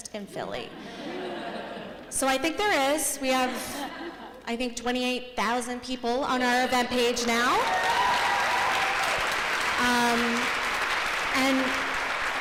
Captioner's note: applause